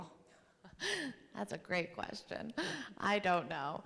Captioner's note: chuckles